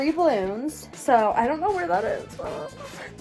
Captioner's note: whimpers